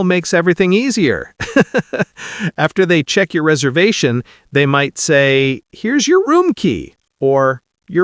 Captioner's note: laughing